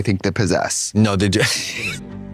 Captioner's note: laughs